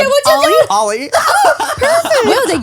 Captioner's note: laughs